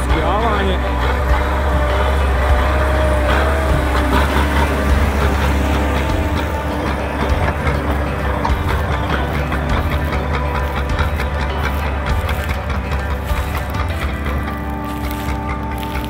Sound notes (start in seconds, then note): 2.9 engine reving